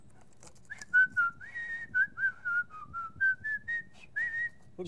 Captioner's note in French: siffle